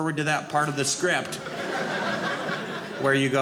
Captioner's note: audience laughing